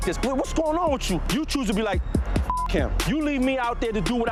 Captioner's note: beep